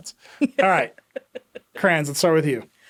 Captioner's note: laughing